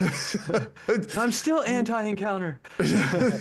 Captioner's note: laughs